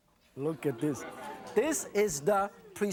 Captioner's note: audience oohs